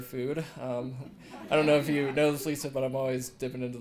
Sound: laugh

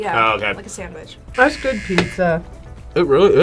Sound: buzzer rings

